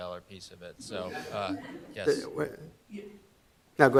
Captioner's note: audience laughing